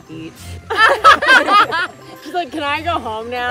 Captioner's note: all laughing